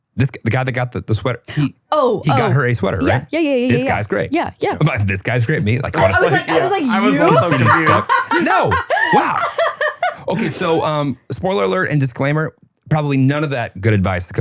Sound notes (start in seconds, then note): 9.6 laughing